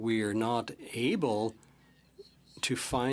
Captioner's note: speaking French